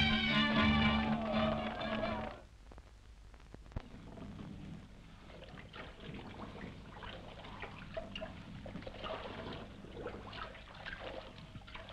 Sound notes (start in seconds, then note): 3.4 water sloshing